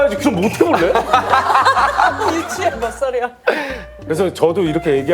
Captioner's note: hahaha